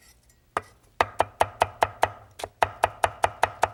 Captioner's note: knife chopping